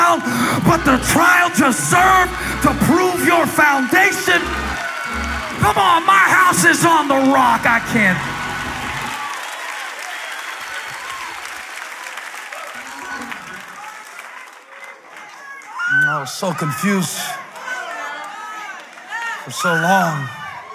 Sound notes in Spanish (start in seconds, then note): 8.3 Aplausos